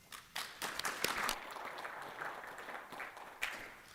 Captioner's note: applause